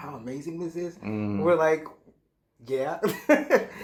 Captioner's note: chuckles